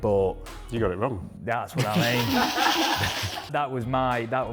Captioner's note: laughing